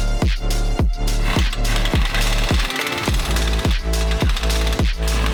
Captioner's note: drilling